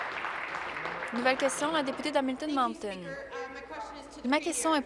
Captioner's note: applause